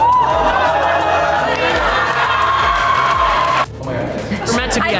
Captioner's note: group applauds; group cheers; group reacting; people chattering